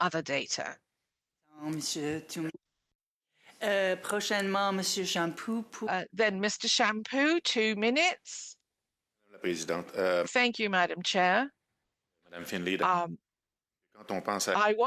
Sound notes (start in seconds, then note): 10.4 speaking French